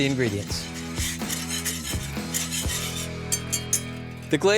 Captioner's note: whisking